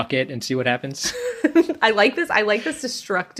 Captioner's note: laughs